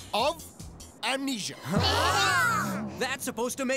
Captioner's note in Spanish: emocionado